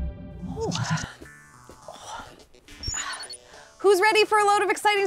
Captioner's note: breathing heavily